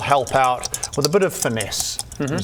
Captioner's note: shakes louder